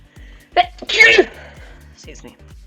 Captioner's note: very loud sneeze